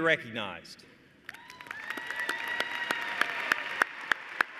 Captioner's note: cheers and applause